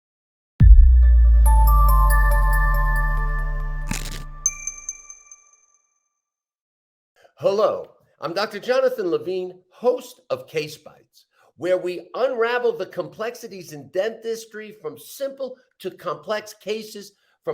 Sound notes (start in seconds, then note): 1.4 bright upbeat music; 3.8 logo crackles